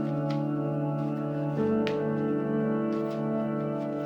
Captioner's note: paper crumples